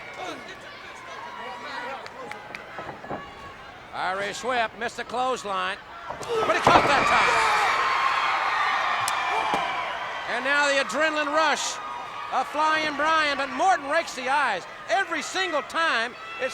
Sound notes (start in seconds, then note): 0.3 blows thudding; 0.3 footsteps plodding; 6.0 body thudding; 7.6 crowd cheering; 7.6 wrestlers grunting